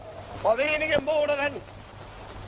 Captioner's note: speaking German